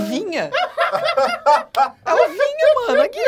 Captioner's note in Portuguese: risadas